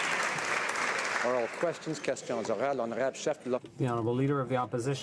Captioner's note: some Applause